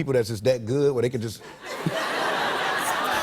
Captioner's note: laughter